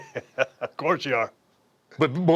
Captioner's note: laugh